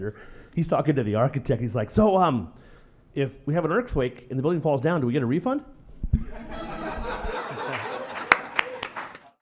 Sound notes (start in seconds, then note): 6.2 laughter